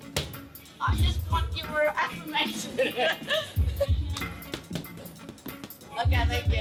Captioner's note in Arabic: يضحك